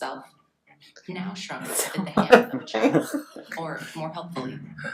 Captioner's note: laughing